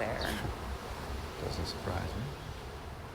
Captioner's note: scoffs